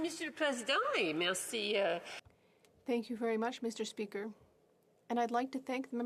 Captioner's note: speaking French